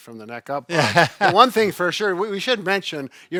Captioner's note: laughs